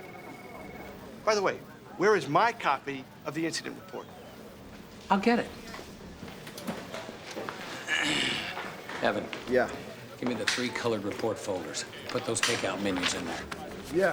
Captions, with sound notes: By the way, where is my copy of the incident report? I'll get it. (clears throat) Evan? Yeah? Give me the three colored report folders. Put those take-out menus in there.